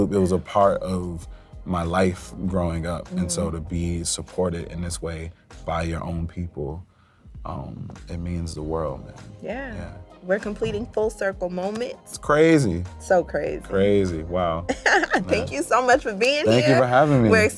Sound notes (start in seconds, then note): 14.7 laughs